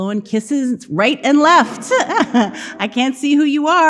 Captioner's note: laughing